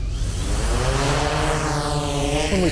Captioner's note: drone propellers whirring